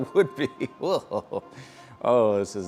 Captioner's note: laughing